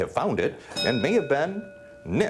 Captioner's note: bell dinging